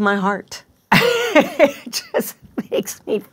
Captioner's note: laughing